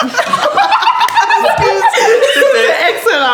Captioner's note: laughter